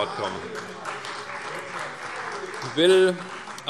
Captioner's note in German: Beifall CDU